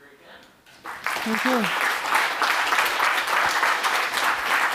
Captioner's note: applause